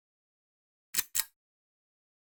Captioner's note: click